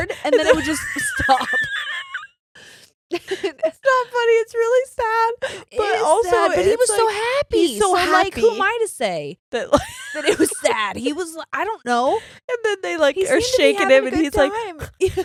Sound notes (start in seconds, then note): 2.2 laughing